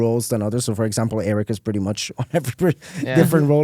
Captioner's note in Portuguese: risos